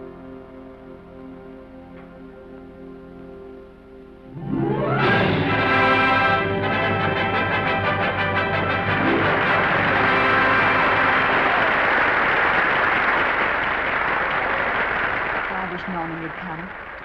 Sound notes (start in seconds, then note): 0.2 ominous music; 4.3 triumphant orchestral music; 8.8 audience applause